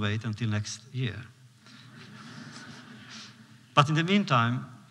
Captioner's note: laughter